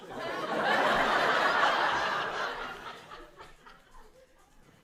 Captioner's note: audience laughs